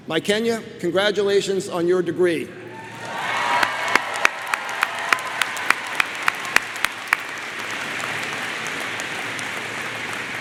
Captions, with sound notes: Mikenya, congratulations on your degree. (crowd applauds)